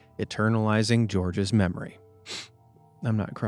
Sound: sniffs

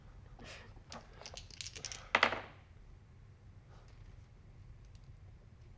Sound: dice rattle and tap table

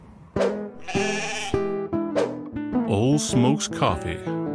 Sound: bahhing

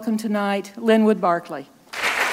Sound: applause

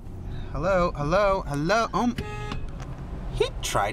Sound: honks horn

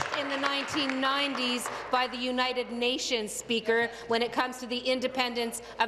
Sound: applause

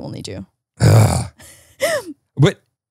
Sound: groaning

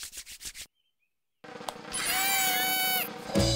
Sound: buzzing of effort

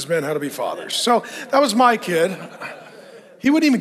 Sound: audience laughing

